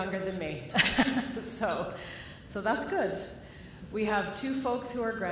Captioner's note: laughter